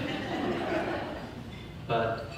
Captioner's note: audience laughter